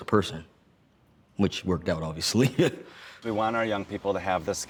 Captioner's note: laughs